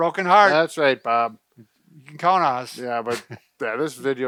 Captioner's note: laugh